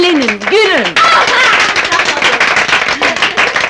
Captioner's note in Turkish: Kızların keyifli kahkahaları